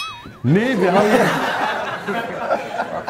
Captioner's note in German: Lachen